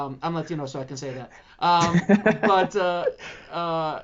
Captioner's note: laughing